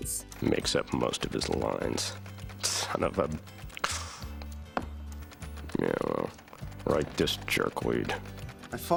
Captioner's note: scoff